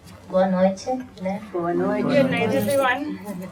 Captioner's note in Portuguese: Vozes